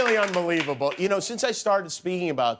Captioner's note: cheers and applause